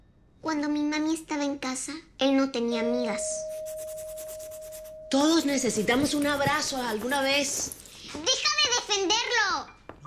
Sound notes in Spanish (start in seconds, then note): 2.8 Suena timbre